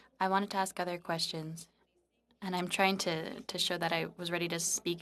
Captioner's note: speaking French